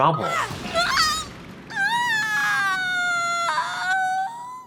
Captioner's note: Narue groaning